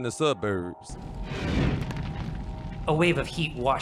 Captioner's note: sound of a burst of flame, then a steady fire